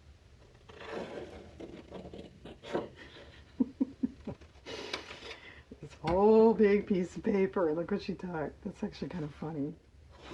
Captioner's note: laughs